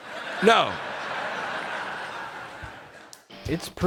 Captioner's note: audience laughing